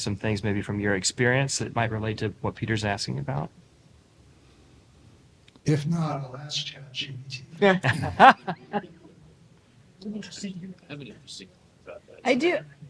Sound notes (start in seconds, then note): 7.8 laughter